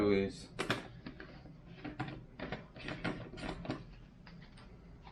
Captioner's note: plastic clatters